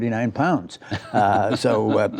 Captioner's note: laughter